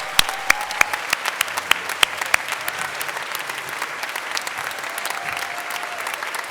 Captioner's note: applause